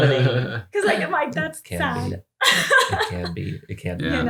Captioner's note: laughs